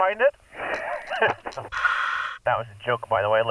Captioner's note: laughing